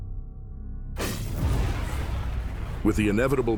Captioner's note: fire whooshing